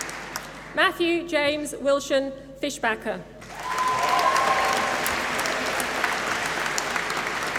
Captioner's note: applause